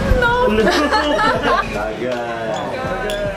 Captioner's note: laughs